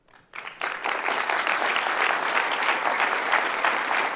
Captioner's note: applause